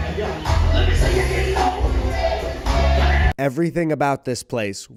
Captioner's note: man talking on TV